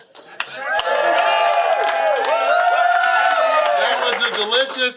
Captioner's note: audience clapping